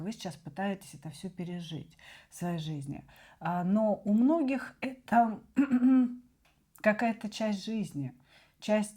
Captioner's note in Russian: откашливается